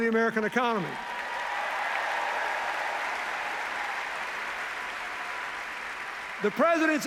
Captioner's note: cheers, applause